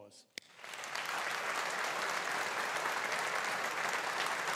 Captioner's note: audience applauding